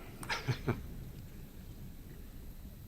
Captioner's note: laughs